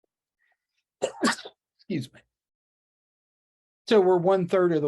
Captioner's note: sneezes